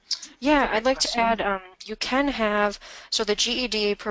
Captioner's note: voiceover